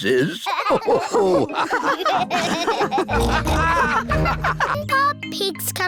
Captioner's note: all laugh